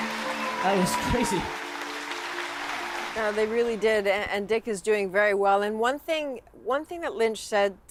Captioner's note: cheers and Applause